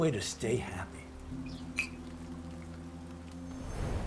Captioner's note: glasses clink